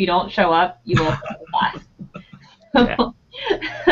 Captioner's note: laughing